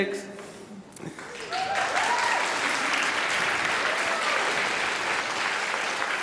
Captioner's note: applause and cheering